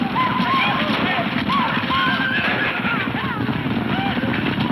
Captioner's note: horses neighing